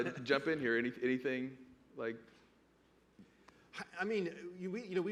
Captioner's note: laughter